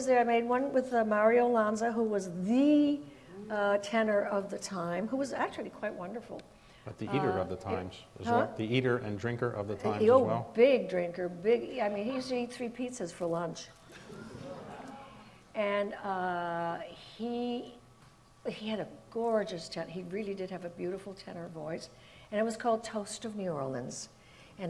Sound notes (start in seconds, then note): 14.0 audience murmurs